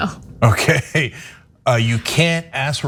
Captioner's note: laugh